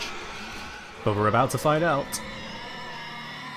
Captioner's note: Juggernaut screeches